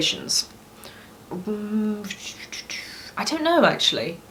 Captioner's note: makes thinking noises